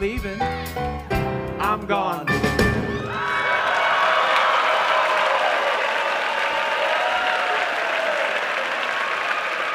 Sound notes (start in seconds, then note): 3.0 audience applauding